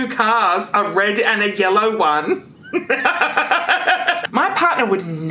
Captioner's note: laughs